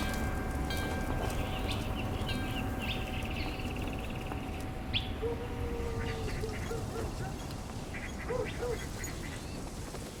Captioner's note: bell blown by wind chimes; birds in background chirp, dog barks